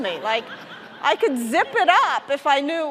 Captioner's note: audience laughing